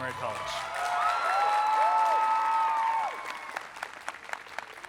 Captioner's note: people cheering